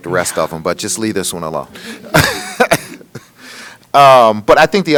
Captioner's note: laughs